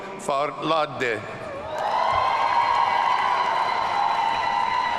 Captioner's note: audience cheering